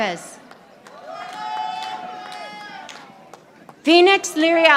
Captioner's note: audience applauding